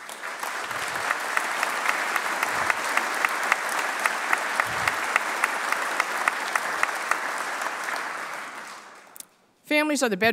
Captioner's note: applause